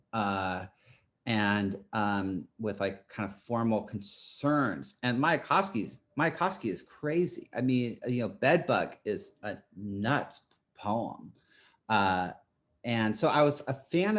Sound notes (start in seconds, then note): none